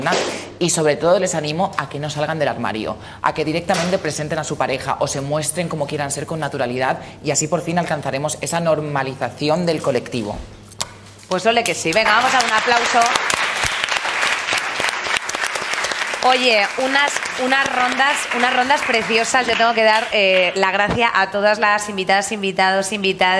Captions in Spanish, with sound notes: y, sobre todo, les animo a que no salgan del armario. Que directamente presenten a su pareja o se muestren como quieran ser con naturalidad y así alcanzaremos la normalización del colectivo. Pues olé que sí. Vamos a dar un aplauso. (Aplausos) Oye, unas rondas preciosas y yo tengo que dar las gracias a todas las invitadas e invitados, invitades,